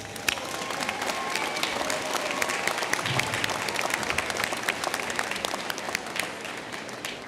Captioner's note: applause